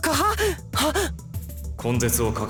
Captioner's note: gasp